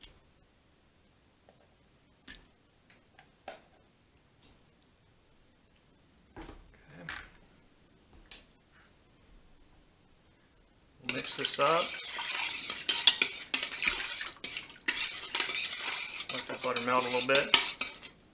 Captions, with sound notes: Mix this up (stirring) Let it melt a little bit